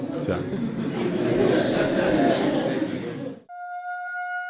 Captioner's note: laughing